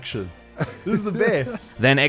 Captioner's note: laughs